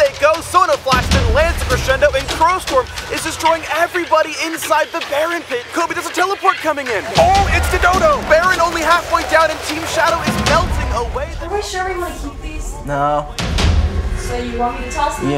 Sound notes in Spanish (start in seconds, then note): 11.0 volúmen de voces disminuye